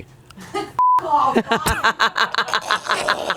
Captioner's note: beep; everyone laughs